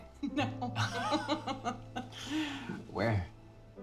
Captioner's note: laughs